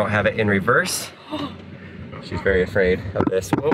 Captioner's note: gasps